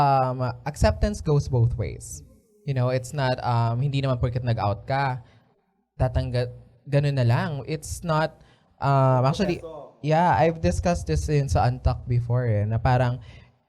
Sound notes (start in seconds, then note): none